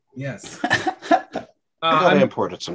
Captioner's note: laughing